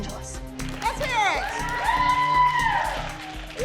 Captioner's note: all whooping